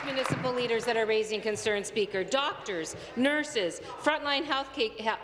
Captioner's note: applause